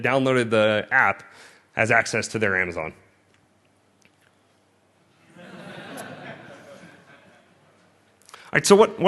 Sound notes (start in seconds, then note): 5.2 laughter